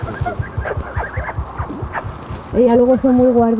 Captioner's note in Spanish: sonido de besos y el corazón de la oca latiendo junto al micrófono de